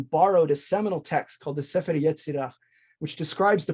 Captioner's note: speaks in foreign language